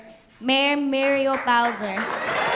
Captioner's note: applause